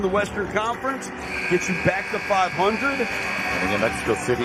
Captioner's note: buzzer buzzing